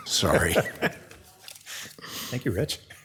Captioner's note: laughing